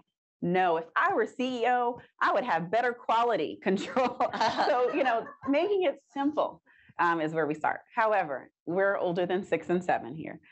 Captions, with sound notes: No. If I were CEO, I would have better quality control. [chuckles] Making it simple, is where we start. However, we're older than six and seven here.